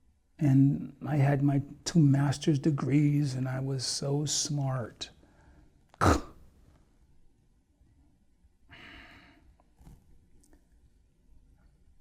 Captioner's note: scoffs